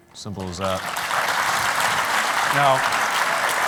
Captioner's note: applause